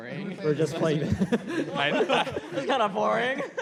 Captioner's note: laughter